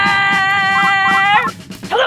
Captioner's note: beeping